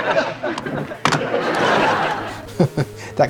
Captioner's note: crowd laughs; chuckles